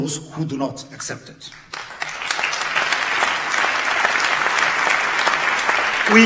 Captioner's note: audience claps